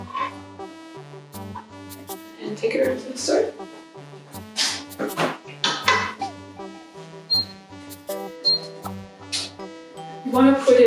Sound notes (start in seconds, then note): 5.6 pot clanging; 8.2 stove beeping